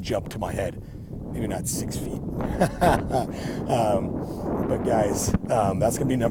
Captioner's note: laughing